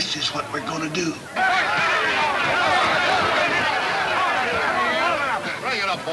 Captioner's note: men yelling simultaneously